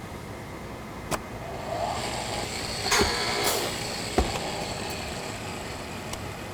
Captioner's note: machine whirs